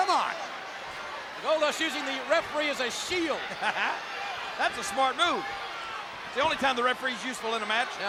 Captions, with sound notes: Come on Goldust using the referee as a shield. (chuckles) That's a smart move. The only time the referee's useful in a match.